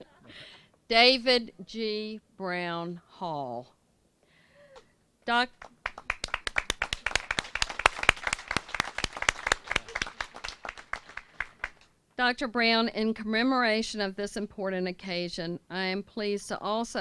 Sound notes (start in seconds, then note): 0.0 laughter; 5.5 applause